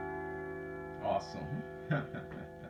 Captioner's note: chuckles